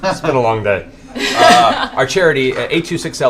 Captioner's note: laughter